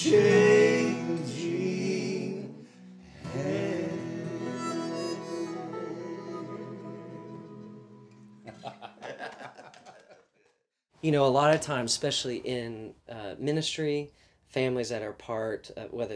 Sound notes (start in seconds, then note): 8.4 group laughs